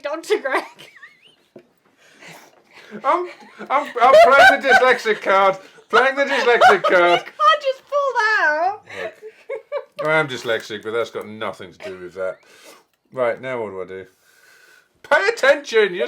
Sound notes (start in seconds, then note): 3.3 laughing hysterically; 8.8 laughing